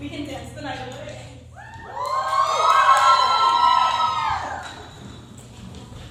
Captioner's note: cheering